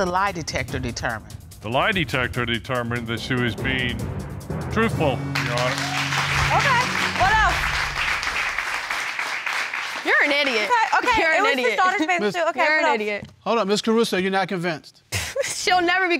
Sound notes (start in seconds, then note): 5.3 audience cheering